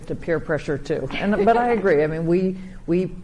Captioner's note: chuckles